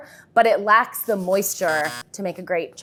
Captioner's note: buzzer sounds